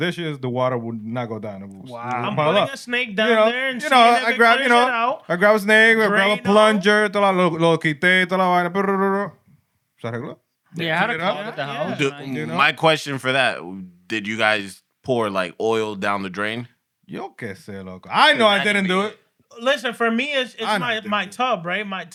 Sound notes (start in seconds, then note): 8.8 mumbling; 17.2 speaking Spanish